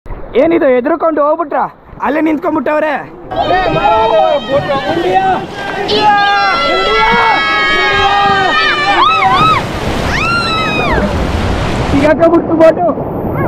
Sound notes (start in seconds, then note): 3.2 all cheering